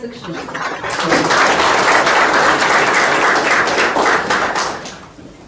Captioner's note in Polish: oklaski